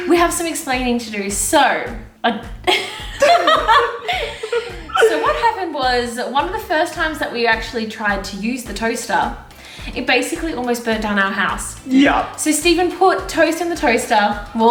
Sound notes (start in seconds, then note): 2.6 laughter